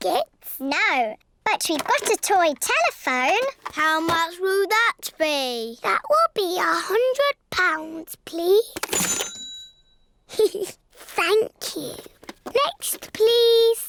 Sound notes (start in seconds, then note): 8.9 dings; 10.3 giggles